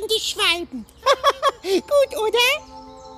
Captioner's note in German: lacht